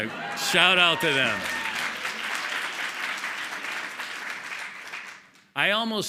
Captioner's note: applause